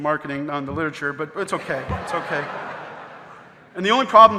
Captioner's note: audience laughing